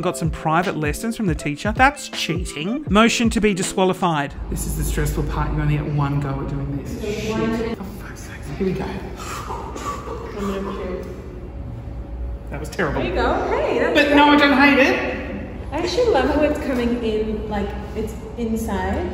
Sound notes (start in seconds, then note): 9.1 breathes deeply